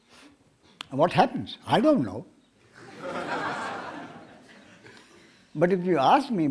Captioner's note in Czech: smích